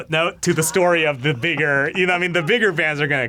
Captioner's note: laughs